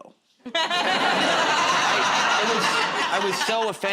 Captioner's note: laughter